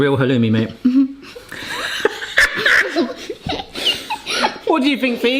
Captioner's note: laughing